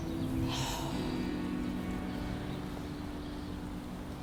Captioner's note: Vanessa sighs